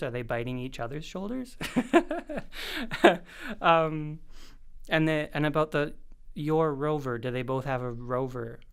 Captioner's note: laugh